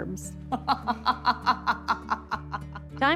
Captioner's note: laughs